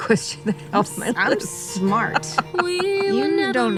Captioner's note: laughing